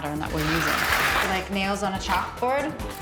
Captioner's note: trowel scraping